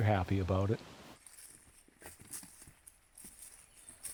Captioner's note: footsteps